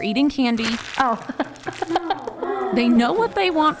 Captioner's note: laughs